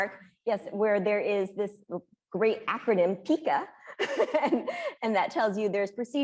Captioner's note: laughing